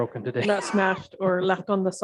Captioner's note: laughs